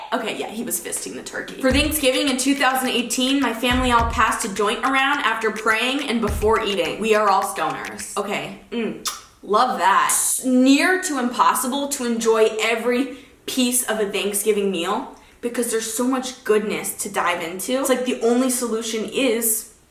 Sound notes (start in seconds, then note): 9.0 kisses